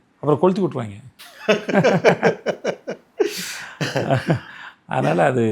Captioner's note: Laughs